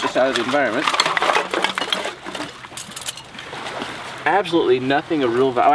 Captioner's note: objects falling